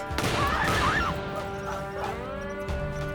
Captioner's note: gunshots firing; women yelling